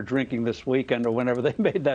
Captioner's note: laughter